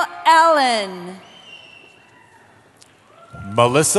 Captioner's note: cheering